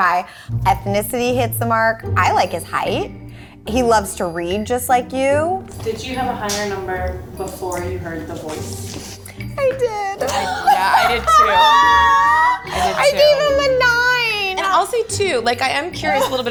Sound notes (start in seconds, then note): 10.2 all laughing